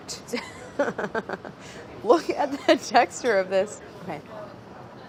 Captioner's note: laughs